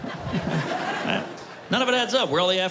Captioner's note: laughter